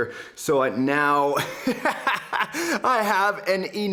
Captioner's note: laughs